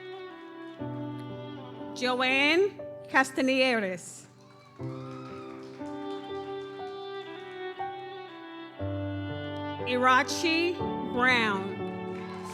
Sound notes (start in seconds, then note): 0.0 audience cheers; 0.0 gentle music continues; 4.2 audience cheers; 4.7 gentle music continues